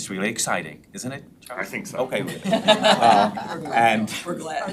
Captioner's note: members laughs